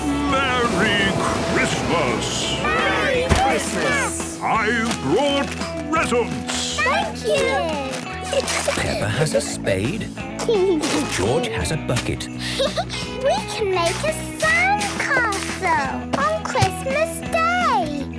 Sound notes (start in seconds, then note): 8.2 giggling; 12.4 giggling; 12.4 Peppa laughing